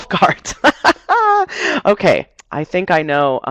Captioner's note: laughs